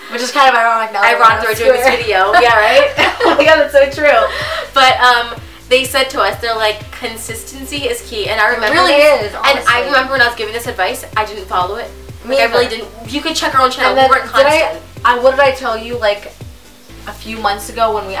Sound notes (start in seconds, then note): 3.4 laughing